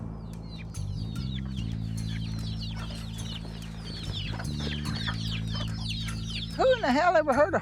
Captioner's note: birds chirping